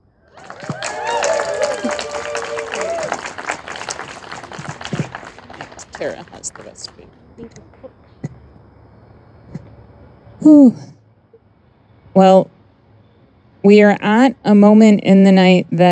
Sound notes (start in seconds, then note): 0.2 audience applauding and cheering